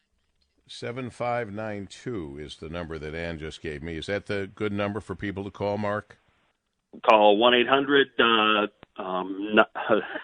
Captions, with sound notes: is the number that Anne just gave me. Is that the good number for people to call Mark? - Call 1-800 (laughs).